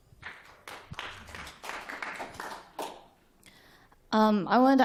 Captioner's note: applause